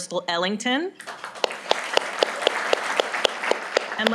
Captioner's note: applause